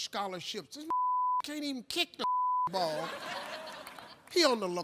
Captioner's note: beep; audience laughing